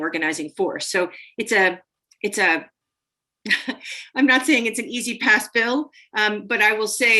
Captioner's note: laughter